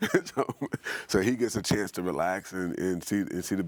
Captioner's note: laughing